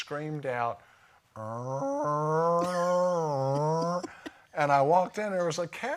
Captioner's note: makes cow sounds